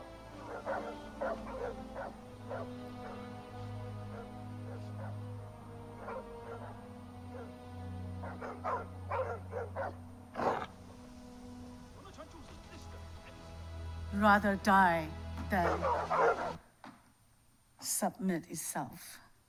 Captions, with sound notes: (dogs barking) (wolf growls) (man speaking in foreign language) Rather die than submit itself.